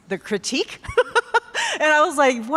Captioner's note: laughing